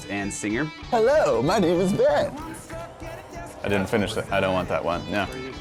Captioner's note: talking off camera